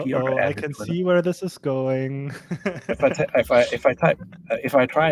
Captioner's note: laughs